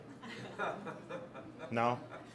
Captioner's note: audience laughs